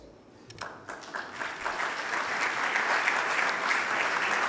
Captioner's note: applause